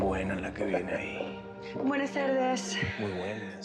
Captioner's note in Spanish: se ríe